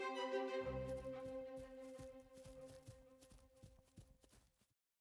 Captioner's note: tiny footsteps crunching on sand